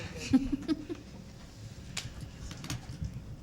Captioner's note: chuckles